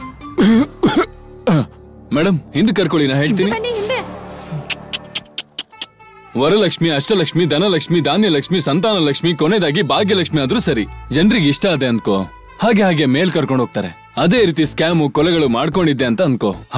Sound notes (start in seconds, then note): 4.6 clicks tongue